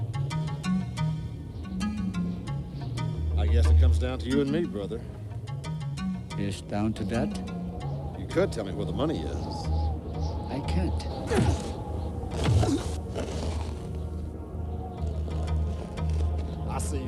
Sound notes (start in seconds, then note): 11.2 both moaning; 14.7 dramatic music